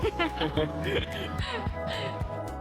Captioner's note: laughs